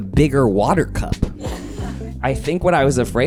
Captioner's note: audience chuckling